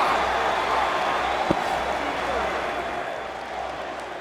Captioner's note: crowd roaring